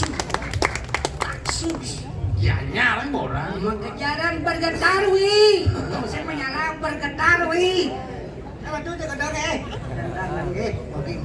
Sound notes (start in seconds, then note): 0.0 applause